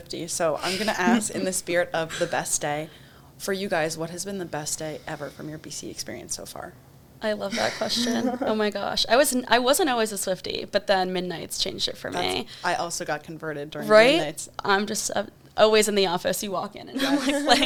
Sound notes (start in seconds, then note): 0.6 chuckles; 7.4 chuckles; 16.9 laughs